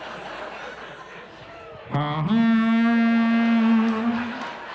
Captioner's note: mimics foghorn